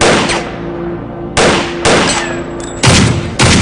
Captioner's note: guns firing